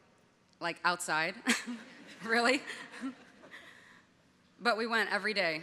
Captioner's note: audience laughing